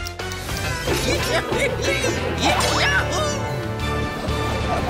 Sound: laughing

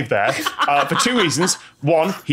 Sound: cackles

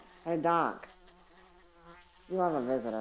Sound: fly buzzing

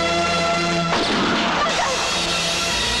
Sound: gunshot

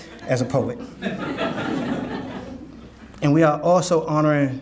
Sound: audience laughing

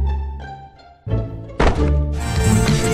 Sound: clunk

